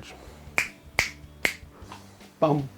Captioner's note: snaps fingers